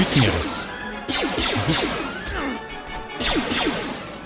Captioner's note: gunshots